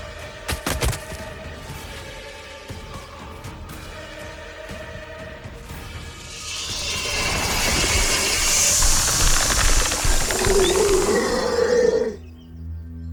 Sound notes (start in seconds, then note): 6.3 snake hisses; 10.6 snake growls